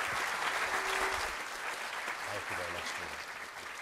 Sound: applause

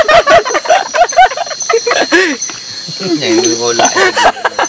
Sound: laughs

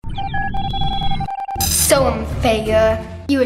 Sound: signal beeps; electric zapping

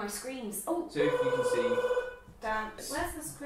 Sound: phone ringing

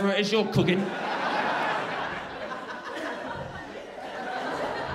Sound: crowd laughing

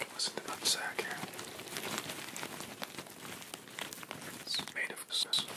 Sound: rustles his balls into the mic

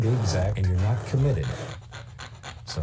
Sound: paint scraper scraping

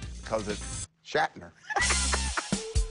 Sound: laughs

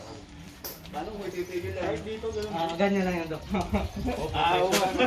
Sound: laughing

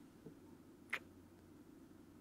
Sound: kiss

